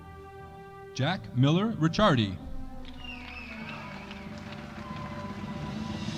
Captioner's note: audience applauding